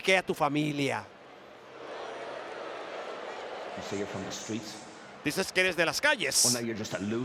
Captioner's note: applause